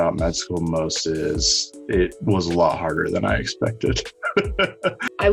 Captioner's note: laughs